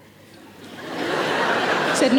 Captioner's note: audience laughing